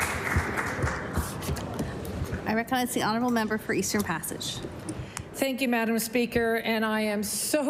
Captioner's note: applause